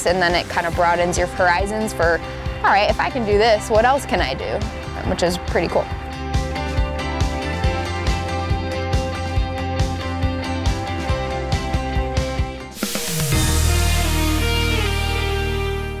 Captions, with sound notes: And then it kind of broadens your horizons for, "All right, if I can do this, what else can I do?" Which is pretty cool. (uplifting music) (whooshing)